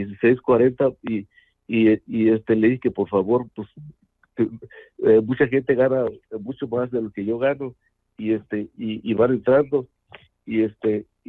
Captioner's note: speaking in Spanish